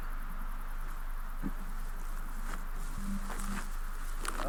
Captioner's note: footfalls halting; slow footfalls crunching; quiet tense music